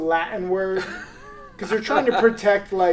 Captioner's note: laughs